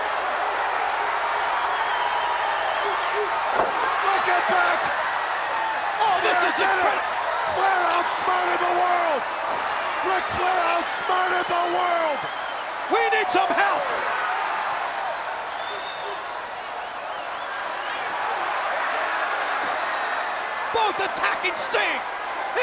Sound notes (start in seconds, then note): 0.1 crowd cheering; 3.6 Sherri thudding on Sting; 5.4 crowd cheering; 14.7 crowd cheering; 14.7 crowd whistling